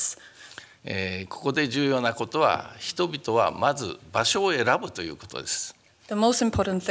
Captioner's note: speaking japanese